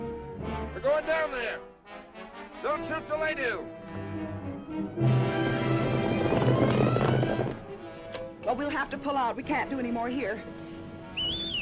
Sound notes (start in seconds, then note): 3.5 dramatic music; 5.4 horse hooves clopping; 7.8 dramatic music; 11.1 whistling